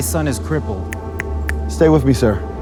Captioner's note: man snapping